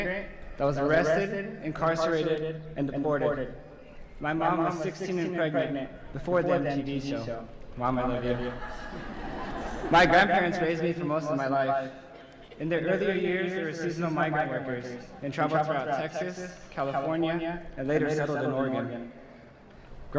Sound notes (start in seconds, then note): 8.3 laughter